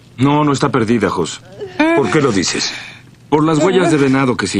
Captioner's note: woman groaning